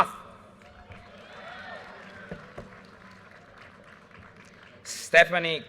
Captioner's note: audience cheers and applause